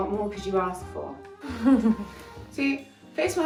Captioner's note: chuckles